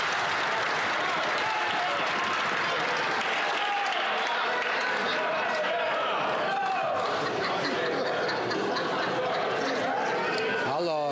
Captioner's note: some Applause